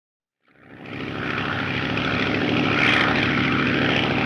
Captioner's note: aircraft droning